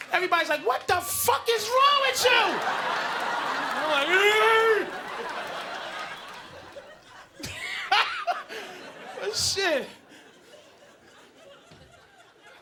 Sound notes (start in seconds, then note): 2.7 audience laughing; 7.7 Patrice laughs